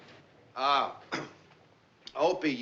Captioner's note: clears throat